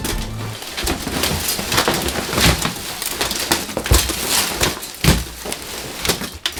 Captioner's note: cardboard and plastic wrap shuffling